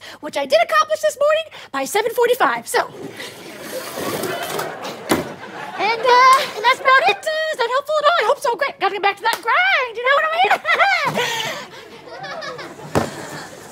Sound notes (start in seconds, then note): 5.0 thud; 5.8 audience laughs